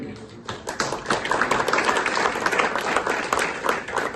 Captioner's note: clapping